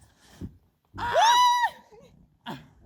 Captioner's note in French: Cris de joie